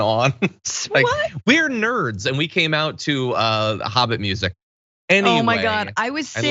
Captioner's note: laugh